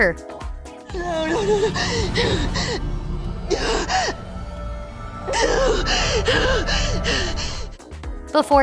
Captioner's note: crying